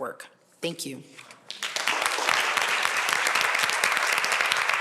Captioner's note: applause